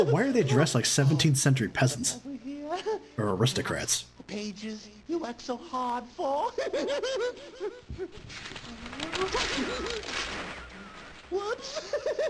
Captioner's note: giggle; rips out page